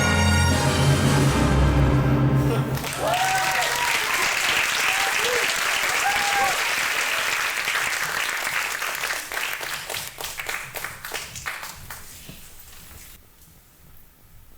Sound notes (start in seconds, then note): 0.0 dramatic classical music; 2.4 audience cheering and clapping